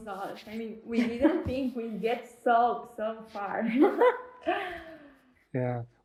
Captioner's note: laughter